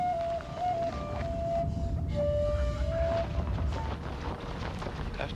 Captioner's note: thunder rolling